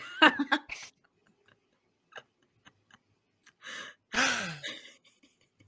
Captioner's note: laughing